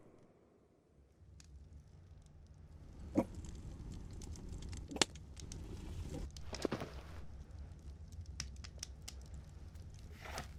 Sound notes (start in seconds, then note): 2.7 gurgling